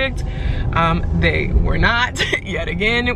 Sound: chuckles nervously

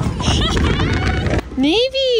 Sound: mom laughs

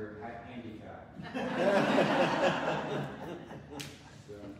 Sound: audience laughs

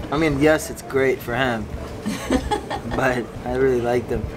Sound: laughs

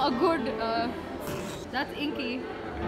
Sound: snort

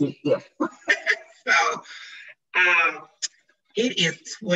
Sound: laughs

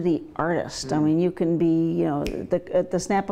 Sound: snaps fingers

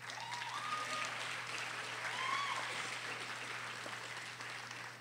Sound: audience applauding

